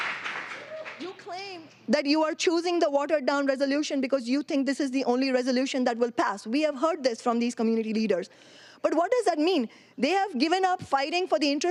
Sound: applause; cheering

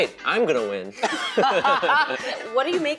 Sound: laughing

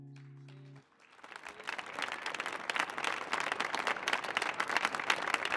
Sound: audience applauding

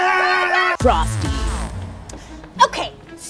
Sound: group screaming; voiceover

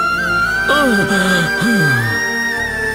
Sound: groans

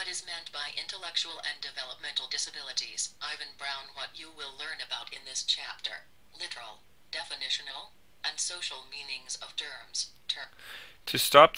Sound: text to Speech Voice reading the document

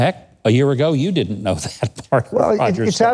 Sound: laughing

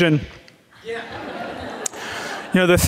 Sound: audience laughing

